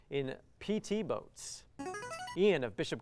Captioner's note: buzzer